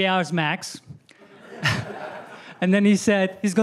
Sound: laughter

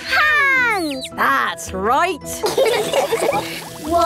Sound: all laughing

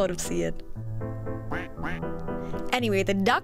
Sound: quack quack

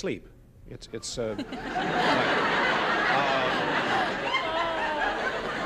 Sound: laughter

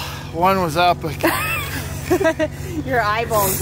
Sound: laughter

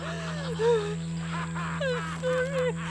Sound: men laughing; Brigit sobbing

